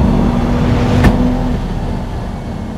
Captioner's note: thunk